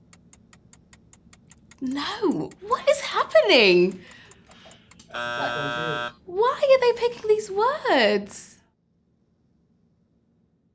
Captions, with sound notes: No! What is happening? (timer buzzing) Why are they picking these words?